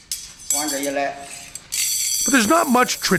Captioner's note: non-english speech